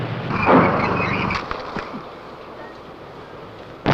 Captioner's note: rustling